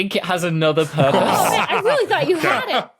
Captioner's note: laughs